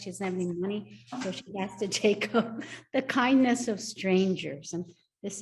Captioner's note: laughs